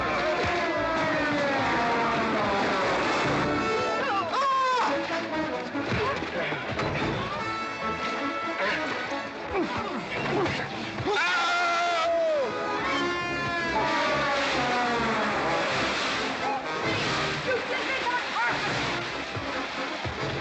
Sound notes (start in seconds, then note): 0.3 sounds of scuffling & fighting; 0.3 western fight music; 15.6 splash